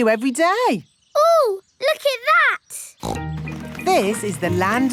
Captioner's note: snorts